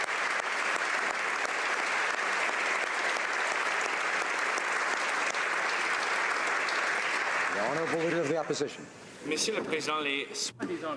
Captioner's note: applause